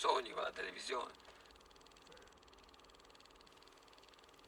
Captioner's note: projector noise